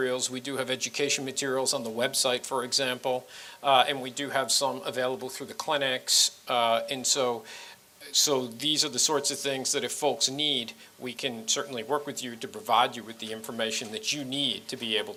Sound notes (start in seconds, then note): none